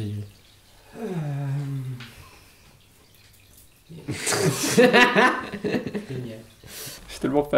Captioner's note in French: rires